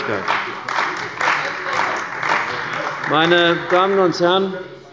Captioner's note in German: Beifall bei der CDU – Widerspruch bei der SPD